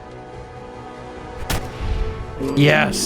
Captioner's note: blam!